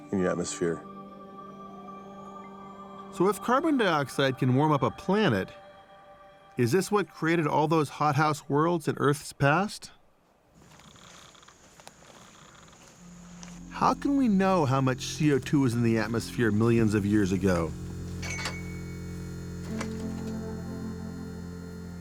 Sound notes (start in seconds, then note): 10.5 insects chirping; 16.9 gate creaks